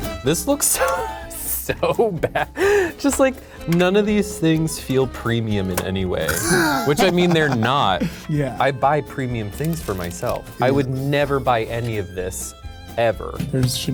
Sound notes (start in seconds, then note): 0.0 lively country music; 6.3 laughs